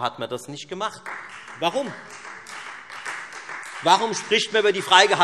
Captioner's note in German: Beifall Freie Demokraten